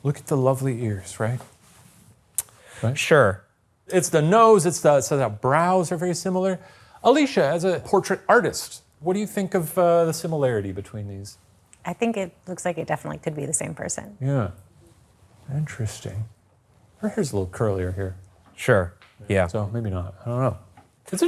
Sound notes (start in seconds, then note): 2.4 clicks tongue